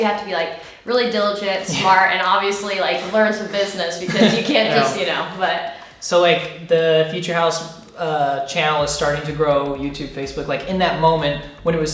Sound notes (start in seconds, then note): 4.0 laughing